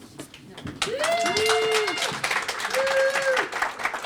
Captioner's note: applause